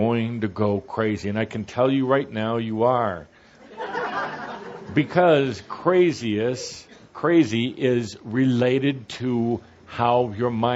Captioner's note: laughter